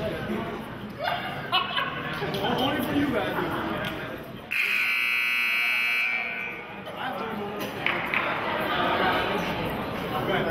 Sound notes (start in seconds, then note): 4.5 buzzer honks